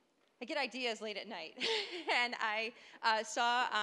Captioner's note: laughing